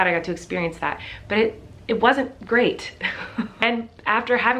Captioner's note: chuckles